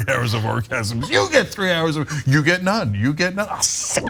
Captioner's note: laugh